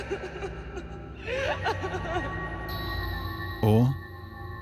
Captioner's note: crying noises